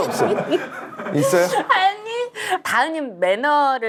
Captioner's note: laughing a lot